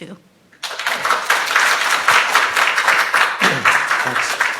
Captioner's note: students applauds